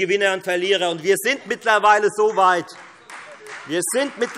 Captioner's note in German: Beifall Freie Demokraten